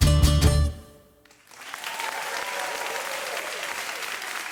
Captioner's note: applause